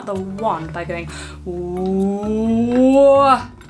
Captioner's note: laughs